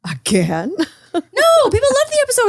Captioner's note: laughs